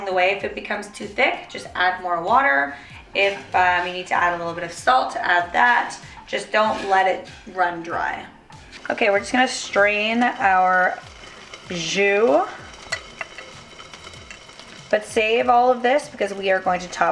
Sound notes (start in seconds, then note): 12.6 simmering